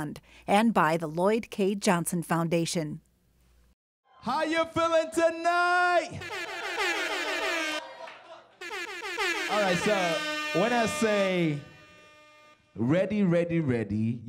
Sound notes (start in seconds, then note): 4.1 cheering